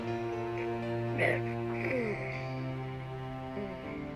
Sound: grunts

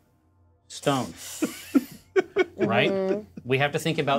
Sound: co-host laughing

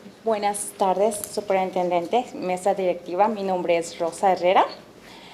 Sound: speaking Spanish

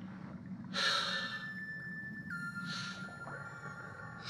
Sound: sighs

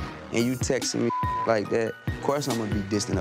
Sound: beep

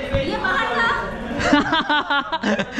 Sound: laughing

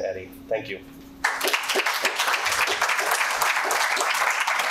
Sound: participants applaud

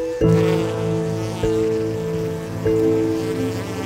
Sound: bees buzzing

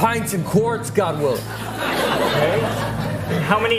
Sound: audience laughing

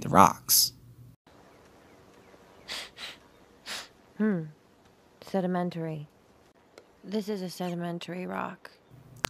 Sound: sniff

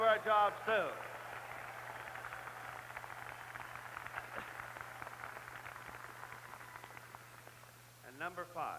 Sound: applause

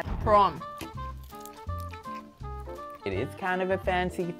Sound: chewing

